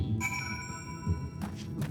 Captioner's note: bell dings